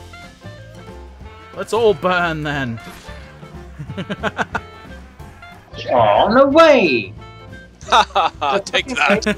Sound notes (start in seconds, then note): 3.6 laughter